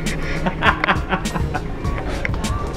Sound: laughs

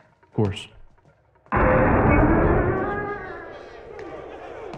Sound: SOUND: the door ahead is opened before him, revealing the Throne Room beyond

